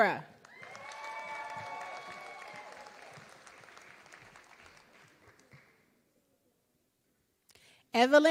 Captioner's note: applause